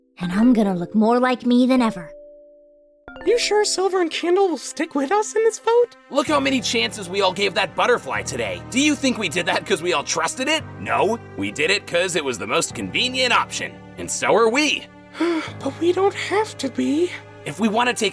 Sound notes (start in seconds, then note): 15.2 sigh